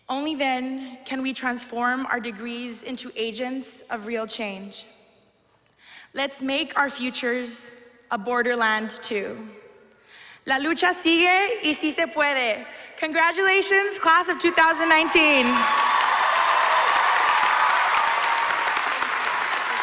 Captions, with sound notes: Only then can we transform our degrees into agents of real change. Let's make our futures a borderland too. [SPEAKING SPANISH] Congratulations class of 2019. [APPLAUSE]